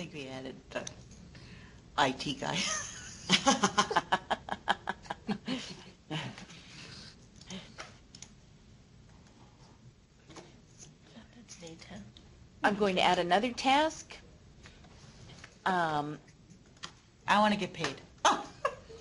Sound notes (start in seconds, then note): 7.2 laughing